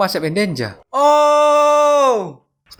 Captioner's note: shouting